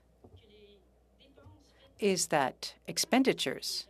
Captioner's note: speaking French